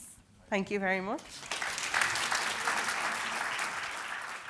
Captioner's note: applause